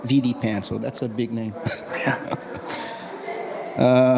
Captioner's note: laughs